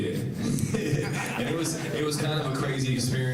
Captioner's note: all laughing